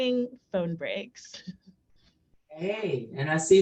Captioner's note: chuckles